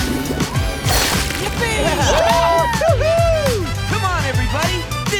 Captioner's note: cheering